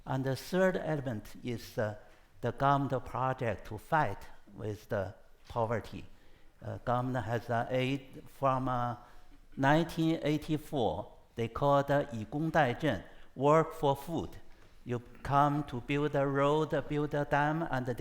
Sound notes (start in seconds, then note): 12.2 speaks foreign language